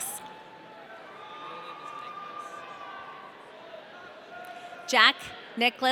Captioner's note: audience cheering